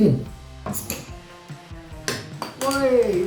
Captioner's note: bottle pops